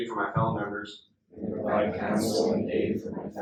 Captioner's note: inductees repeat